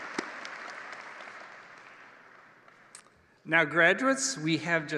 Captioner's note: applause